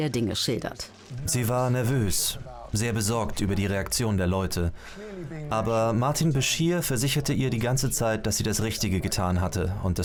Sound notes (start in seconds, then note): none